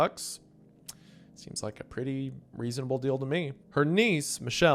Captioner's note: clicks tongue